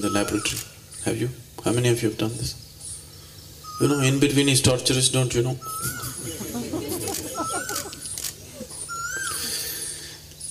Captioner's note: laughter; 笑聲